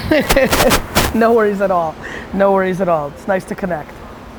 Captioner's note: laughs